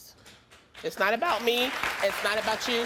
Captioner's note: audience applauds